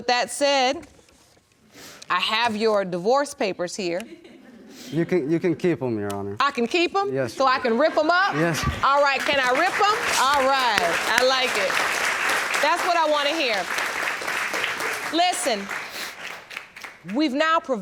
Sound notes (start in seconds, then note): 2.7 audience chuckling; 10.1 audience applauding